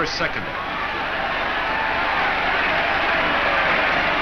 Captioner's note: crowd cheers